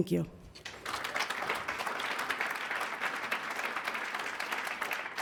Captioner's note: attendees applauding